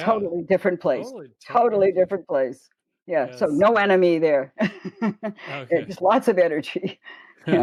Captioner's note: chuckle